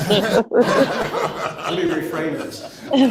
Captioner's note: laughter